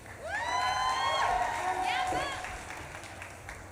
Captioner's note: audience claps and cheers